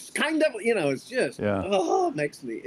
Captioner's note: pat